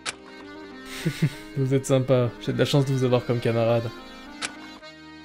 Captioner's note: laugh